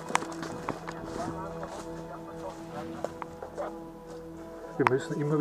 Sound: radio

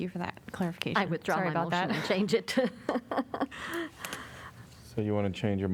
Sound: laughter

